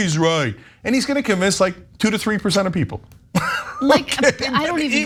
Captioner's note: laugh